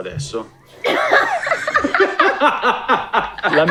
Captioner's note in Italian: Risate